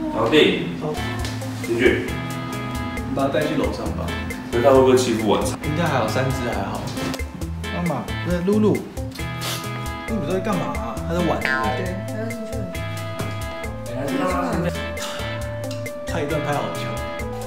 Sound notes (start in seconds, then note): 15.0 sigh